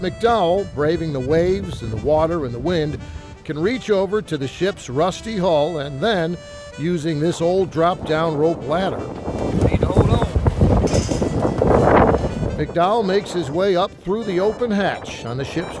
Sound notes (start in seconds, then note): 9.4 wind whooshing